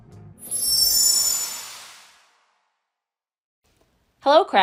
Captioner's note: logo twinkles